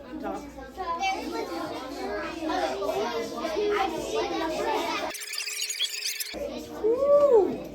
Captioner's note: students talking with partners